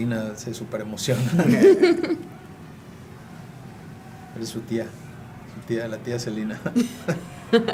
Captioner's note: laugh; laugh